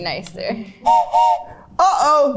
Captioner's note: whistle blows